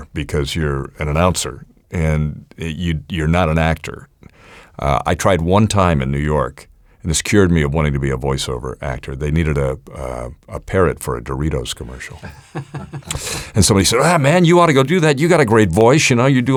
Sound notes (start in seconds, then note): 12.1 laughs